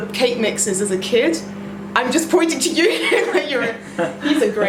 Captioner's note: laughs